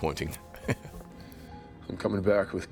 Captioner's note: Chris chuckles